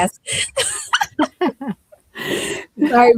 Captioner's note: laughter